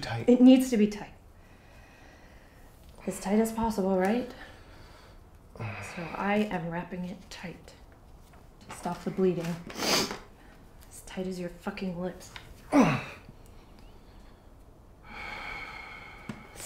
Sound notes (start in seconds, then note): 9.8 sharp Inhale